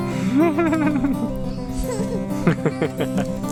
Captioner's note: laughing